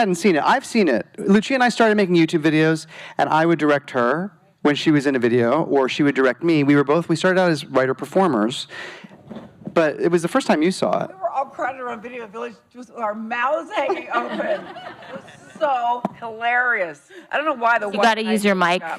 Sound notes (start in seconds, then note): 13.8 laughing